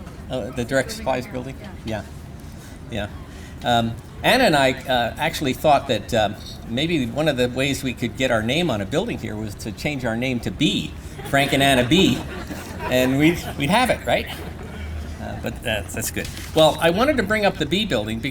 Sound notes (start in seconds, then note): 11.0 laughter